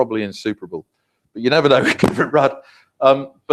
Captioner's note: laugh